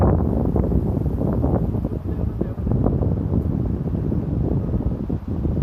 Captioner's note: wind continues blowing